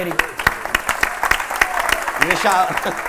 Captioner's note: applause